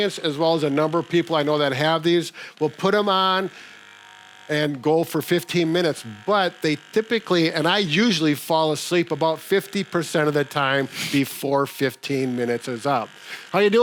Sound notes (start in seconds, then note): 2.6 massager rattling